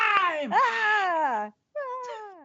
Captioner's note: yelling